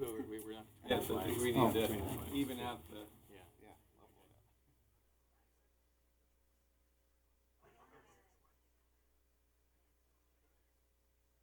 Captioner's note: laughter